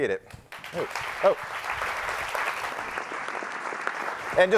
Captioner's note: applauding